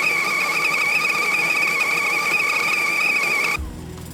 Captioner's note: teakettle screeching loudly